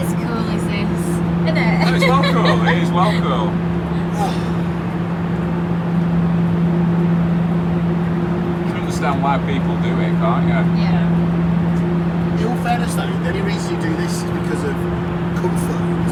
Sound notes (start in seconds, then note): 1.4 laughs; 4.0 sighs